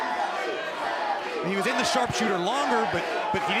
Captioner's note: crowd cheering